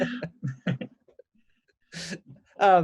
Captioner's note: both Laugh